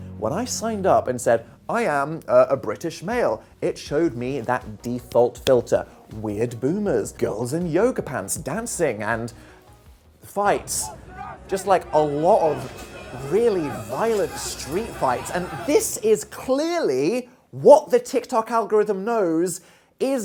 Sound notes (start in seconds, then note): 10.5 tense music; 10.6 crowd shouting